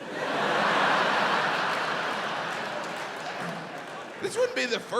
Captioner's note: audience laughs